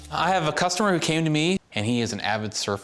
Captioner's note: none